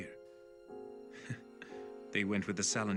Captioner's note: chuckles